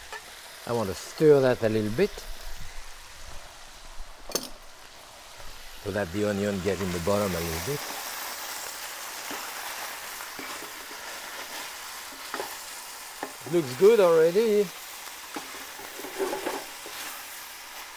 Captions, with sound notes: I wanna stir that a little bit, so that the onion get in the bottom a little bit. (sizzling continues) Looks good already.